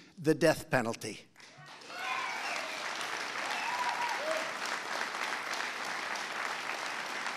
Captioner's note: applause